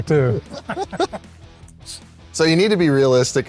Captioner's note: laughing